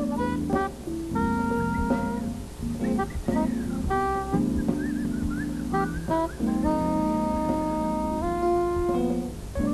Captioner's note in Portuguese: assobios